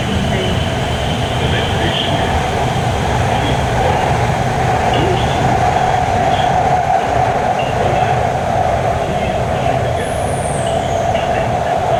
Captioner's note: Regular English announcement, no special announcement